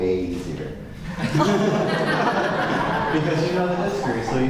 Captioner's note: laughter